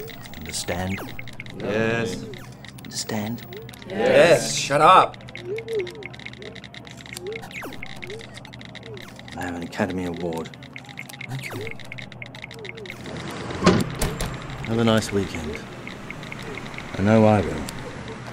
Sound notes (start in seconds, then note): 6.8 devices beeping